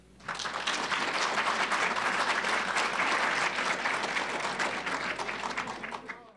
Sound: applause

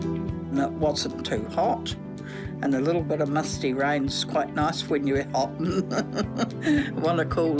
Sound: laughs

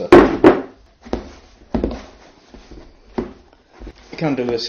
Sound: more stirring

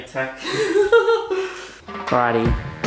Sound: giggles

